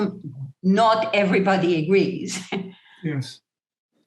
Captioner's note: chuckle